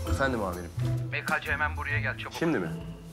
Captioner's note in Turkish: Yüksel ses